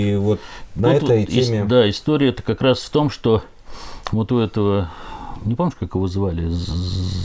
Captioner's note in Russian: фыркает